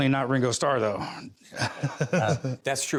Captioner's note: chuckles